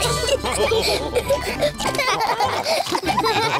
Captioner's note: all laugh